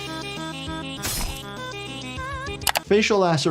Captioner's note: blood squelching; weapon rasping